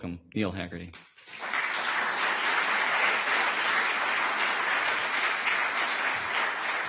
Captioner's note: audience applause